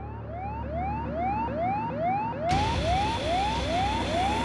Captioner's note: alarms sounding